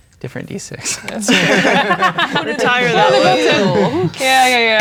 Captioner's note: all talking and laughing